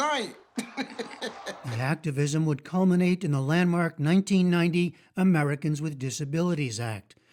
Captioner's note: laughter